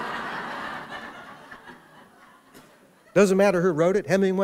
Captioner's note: laughter